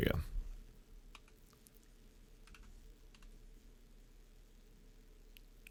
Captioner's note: keyboard clicking